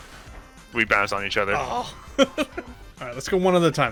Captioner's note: laughs